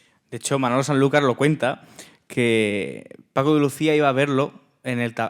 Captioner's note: speaking in Spanish